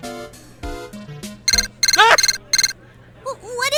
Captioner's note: transceiver beeping